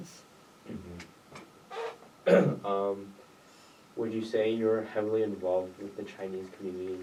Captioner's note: clears throat